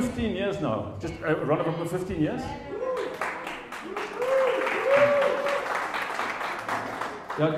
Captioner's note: applause